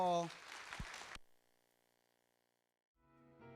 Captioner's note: applause